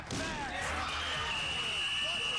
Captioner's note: whistle blows